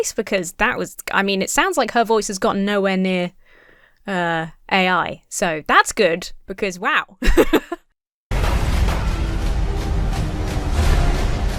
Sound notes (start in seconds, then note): 7.2 laughs; 8.3 frantic music